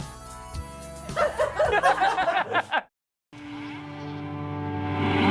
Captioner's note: laughs